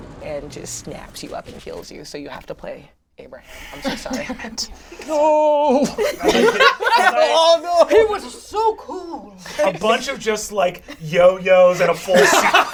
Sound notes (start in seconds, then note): 5.8 laughs; 11.6 all laugh